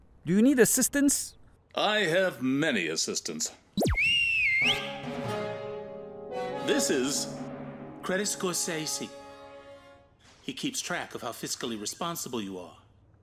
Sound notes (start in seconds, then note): 3.8 whistle blows; 4.7 dramatic music plays